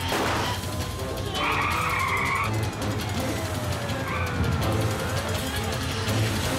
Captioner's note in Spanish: detonación de disparo; chirrido de neumáticos